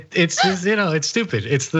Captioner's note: laugh